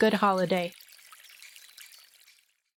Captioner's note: sounds of forest with small rushing brooks and wild bird sounds fade out